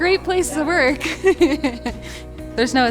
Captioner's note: laughs